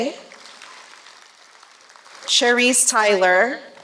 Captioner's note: applause